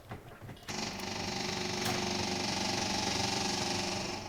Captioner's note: engine sputtering